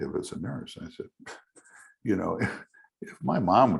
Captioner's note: scoffs